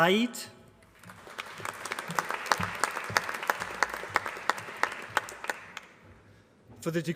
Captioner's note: applause